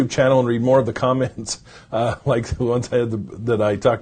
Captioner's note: chuckles